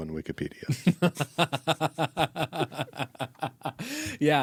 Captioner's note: laughing